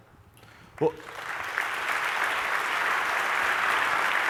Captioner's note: applause